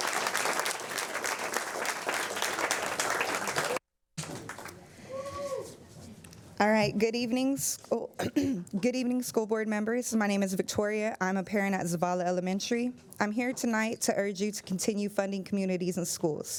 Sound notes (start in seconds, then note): 4.3 applause